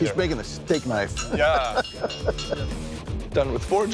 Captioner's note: laughing